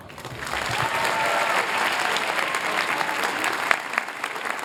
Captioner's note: applause